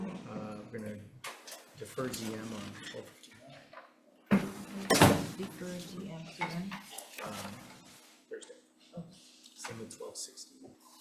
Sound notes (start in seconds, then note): 1.9 papers rustling